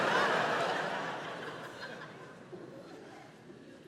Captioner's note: audience laughs